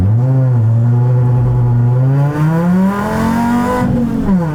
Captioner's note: engine revs and roars